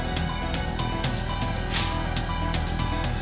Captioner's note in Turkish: Kapı açıldı